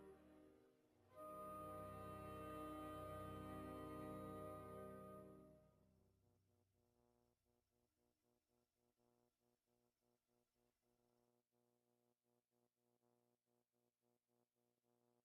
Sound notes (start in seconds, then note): none